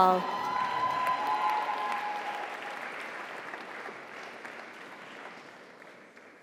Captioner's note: audience cheers; audience applauds